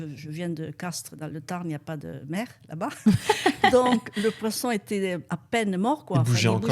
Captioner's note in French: rires